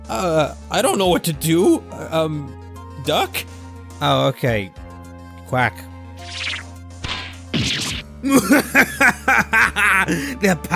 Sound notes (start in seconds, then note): 7.0 bonk; 7.6 thud